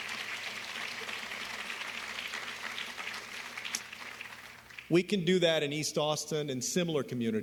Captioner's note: applause